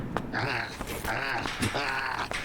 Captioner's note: punching